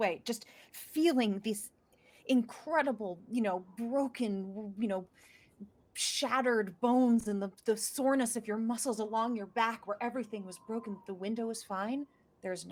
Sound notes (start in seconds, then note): none